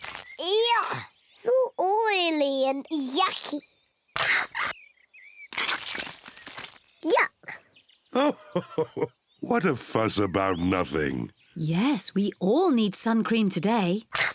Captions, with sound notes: Yuck! It's all oily and yucky! Yuck! (LAUGHS) What a fuss about nothing! Yes, we all need sun cream today.